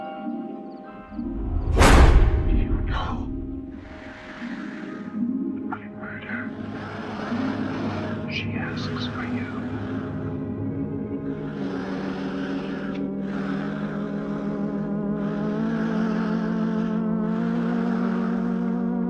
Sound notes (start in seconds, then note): 1.0 dark dramatic music; 3.1 scraggly voice; 4.5 entity breathes raspily; 10.9 tense eerie music